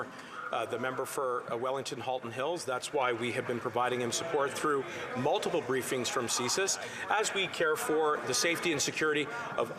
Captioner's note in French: voix de l'interprète